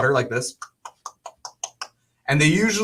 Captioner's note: makes crawling sounds